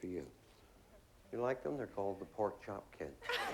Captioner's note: laughter